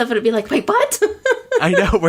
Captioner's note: laughs